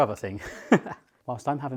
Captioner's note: laughs